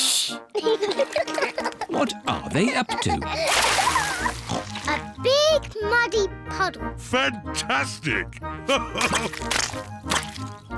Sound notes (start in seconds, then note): 0.5 both laugh; 4.2 oinks; 8.7 laughs